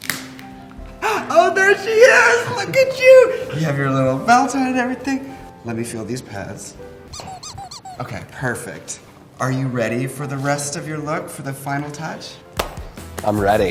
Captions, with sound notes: Oh, there she is. Look at you. You have your little belt on and everything. Let me feel these pads. [squeak, squeak] Okay, perfect. Are you ready for the rest of your look? For the final touch?